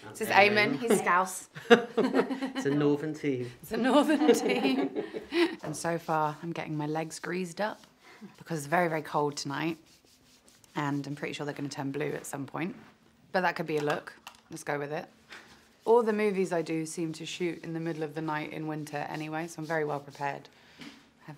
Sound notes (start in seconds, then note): 1.5 all laugh